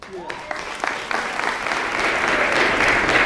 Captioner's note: applause